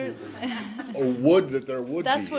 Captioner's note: laughter